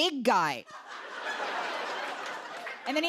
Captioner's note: laughter